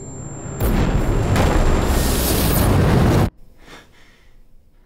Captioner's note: flame explodes